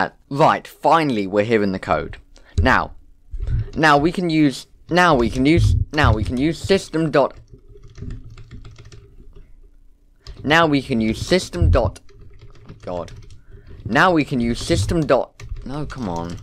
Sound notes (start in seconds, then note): none